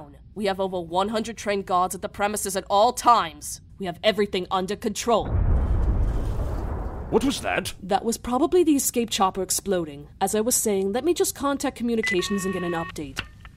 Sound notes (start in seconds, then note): 5.2 muffled explosion